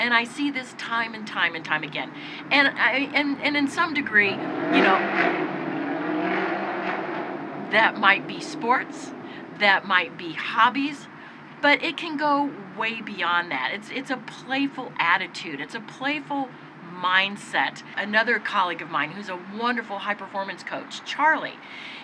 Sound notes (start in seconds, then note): 5.3 vehicle revving